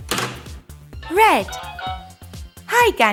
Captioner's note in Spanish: Suena un sonido infantil